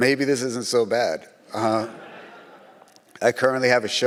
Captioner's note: audience laughs